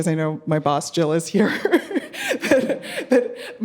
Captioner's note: laughing